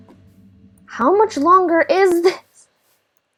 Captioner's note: laugh